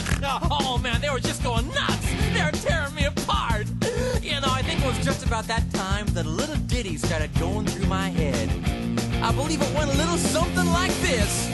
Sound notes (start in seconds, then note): 3.7 inhale